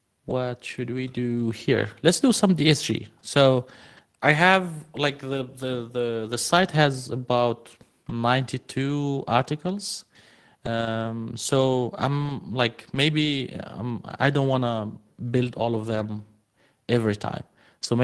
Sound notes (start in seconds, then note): none